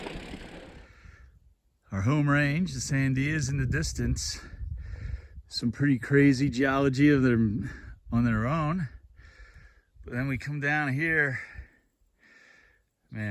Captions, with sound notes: [wind noise] [bike gears whirring] Our home range, the Sandias in the distance. Some pretty crazy geology of their, on their own. But then we come down here.